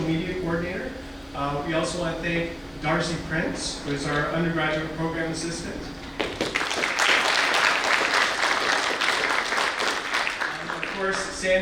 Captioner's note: audience applause